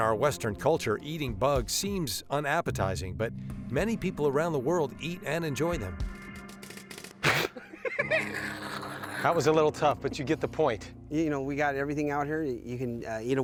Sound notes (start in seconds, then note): 6.7 spitting sounds; 7.2 laughter